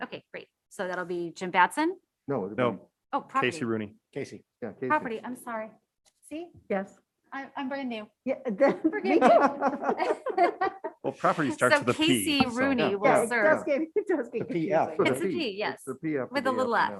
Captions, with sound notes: >>Okay, great. So that'll be Jim Batson? >>No, Casey Rooney. >>Oh, property. >>Property, I'm sorry. See? I'm brand new. >>Me too! (members laughing) >>Well property starts with a P so- >>So Casey Rooney will serve. (members chatting)